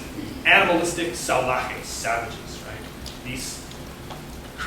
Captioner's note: non-english speech